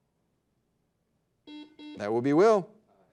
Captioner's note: buzzer dings